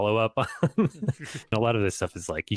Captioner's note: chuckles